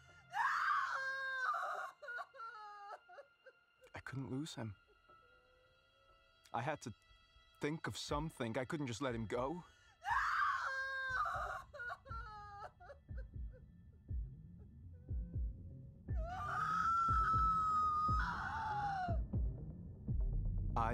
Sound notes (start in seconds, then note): 0.3 woman screams; 10.0 woman screams hysterically; 16.2 woman screams hysterically